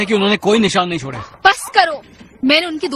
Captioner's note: dog barking